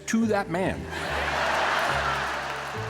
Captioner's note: laughter